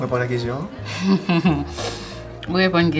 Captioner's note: chuckles